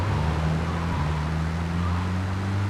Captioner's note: car engine roaring